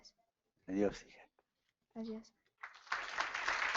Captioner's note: applause